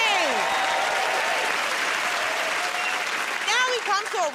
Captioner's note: cheers and applause